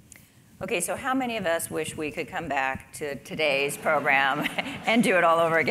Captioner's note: laugh